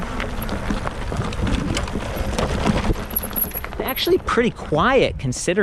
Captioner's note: bike engine roaring